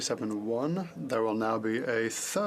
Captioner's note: speaking FRENCH